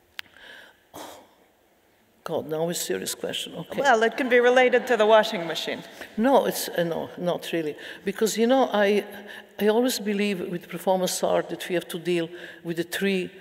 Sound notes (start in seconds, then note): none